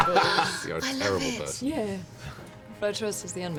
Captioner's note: cracks up; gasps